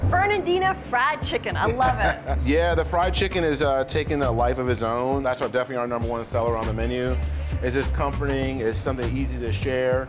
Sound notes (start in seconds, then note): 1.6 laughs